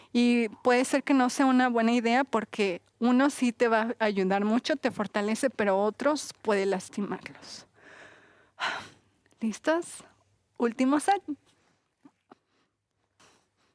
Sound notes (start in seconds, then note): 7.8 exhala